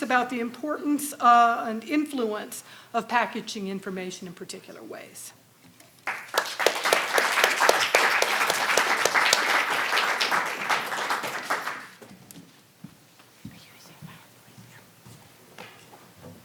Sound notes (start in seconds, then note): 6.0 audience applauding